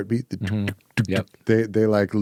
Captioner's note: imitates heartbeat